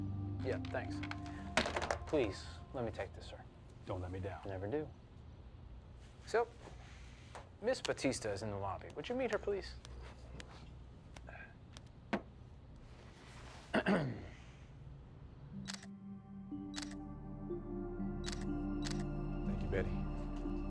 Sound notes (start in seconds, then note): 13.7 Tommy clears his throat; 15.1 camera shutter clicking; 15.5 relaxing music